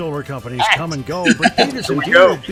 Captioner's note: chuckle